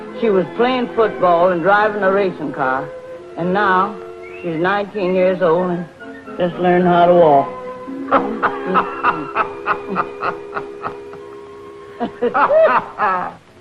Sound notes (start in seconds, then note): 8.1 Reno laughing